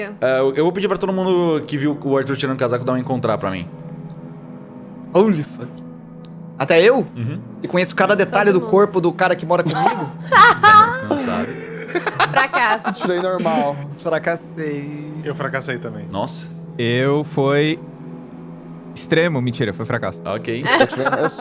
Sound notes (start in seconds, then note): 9.6 laughs